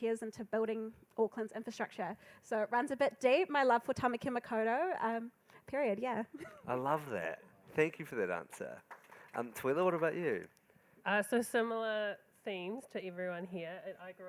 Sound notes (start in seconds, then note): 6.3 laughs; 8.5 crowd applauding